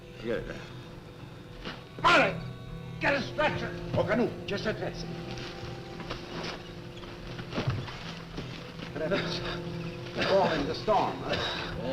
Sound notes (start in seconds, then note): 5.0 speaking foreign language